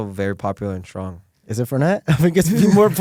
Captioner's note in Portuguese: risos